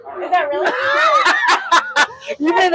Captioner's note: laughs